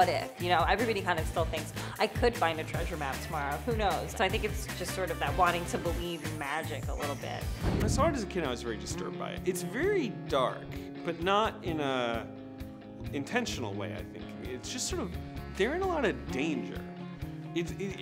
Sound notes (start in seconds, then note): 7.6 air whooshes; 9.0 upbeat instrumental music